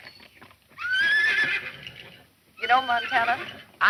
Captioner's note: horse neighs